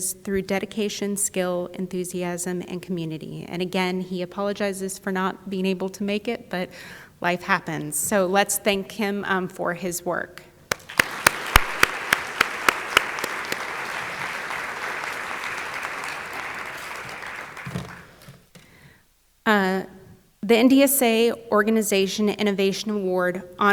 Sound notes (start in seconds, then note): 10.7 audience applauding